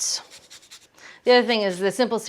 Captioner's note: lemon scraping